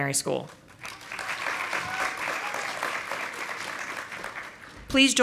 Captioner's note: audience applauding